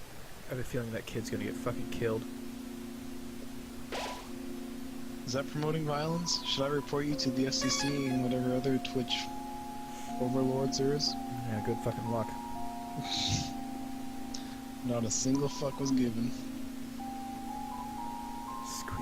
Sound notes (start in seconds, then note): 13.1 snickering